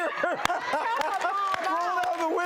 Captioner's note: all laugh